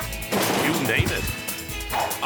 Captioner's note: traps snapping; body crashing